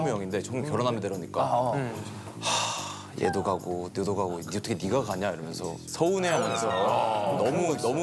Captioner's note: sigh